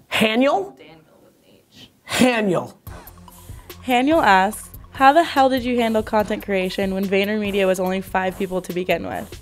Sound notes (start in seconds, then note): 4.0 voiceover